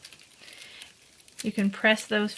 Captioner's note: plastic peeling